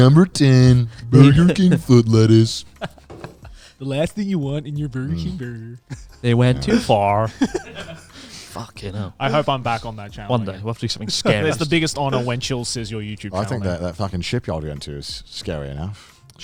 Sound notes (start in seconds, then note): 2.6 chuckles; 5.8 chuckles; 7.4 and Announcer chuckles